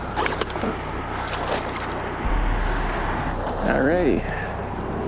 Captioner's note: water splashing